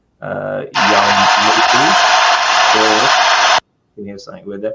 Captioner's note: static interference